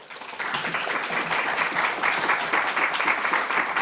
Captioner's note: class clapping